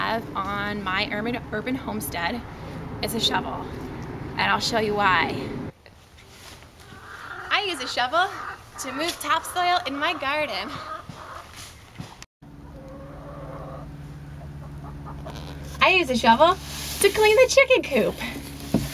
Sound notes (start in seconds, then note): 14.2 chicken cluck; 18.7 sound of leaves falling